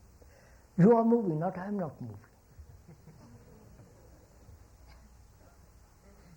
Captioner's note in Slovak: smiech